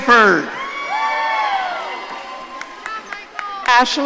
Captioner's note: audience cheering